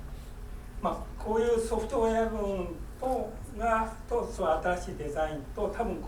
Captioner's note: speaking in foreign language